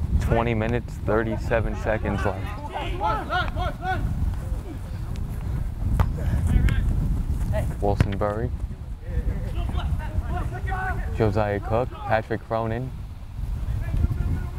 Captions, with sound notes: 20 minutes 37 seconds left. (players talking and yelling) Wilson Burry. Josiah Cook, Patrick Cronin.